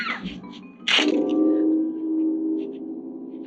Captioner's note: neck cracking